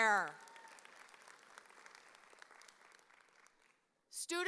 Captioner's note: audience applauding